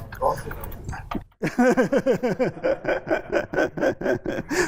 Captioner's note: laughter